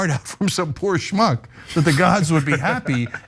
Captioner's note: laugh